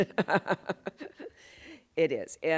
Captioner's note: laughs